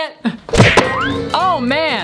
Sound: banging sound

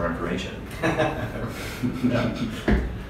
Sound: laughing

